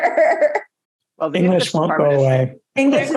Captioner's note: laughs